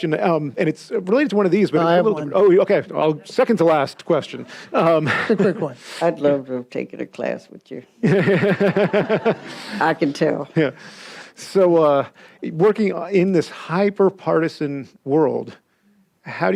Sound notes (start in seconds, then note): 8.0 audience laughs